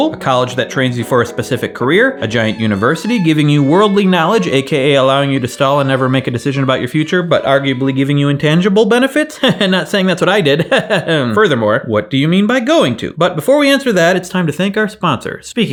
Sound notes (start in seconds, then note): 10.5 laughs